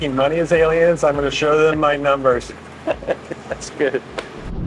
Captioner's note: both laughing